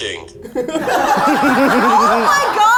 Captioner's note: all laughing